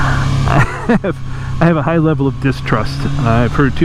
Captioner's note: laughing